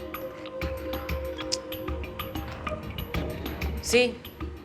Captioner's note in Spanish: Suena el teléfono